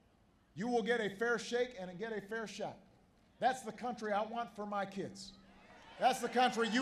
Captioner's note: applause